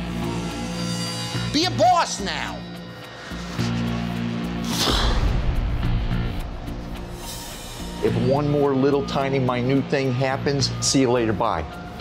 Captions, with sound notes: Be a boss now. - (sighs) If one more little tiny minute thing happens. See you later. Bye.